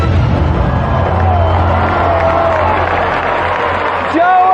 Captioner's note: gasps from audience